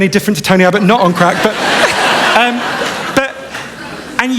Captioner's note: laughter